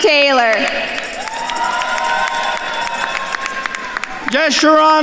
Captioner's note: attendees cheering and applauding